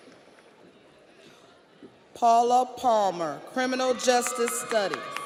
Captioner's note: audience applauds; audience cheers